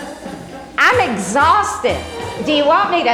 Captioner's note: laughs